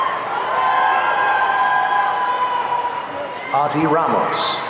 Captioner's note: audience cheering